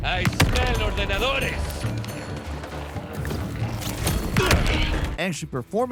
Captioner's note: person speaking in a foreign langauge